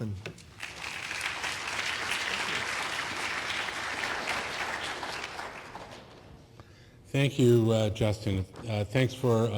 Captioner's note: applause